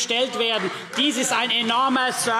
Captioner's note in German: Beifall CDU und vereinzelt BÜNDNIS 90/DIE GRÜNEN